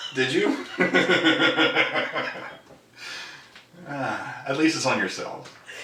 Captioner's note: laughing